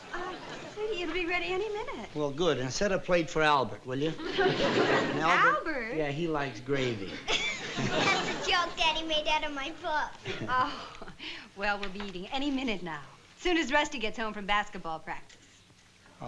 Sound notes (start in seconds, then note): 6.9 laughing; 7.0 chuckles